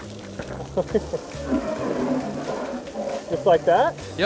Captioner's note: laughs